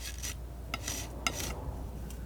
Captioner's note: metal scraping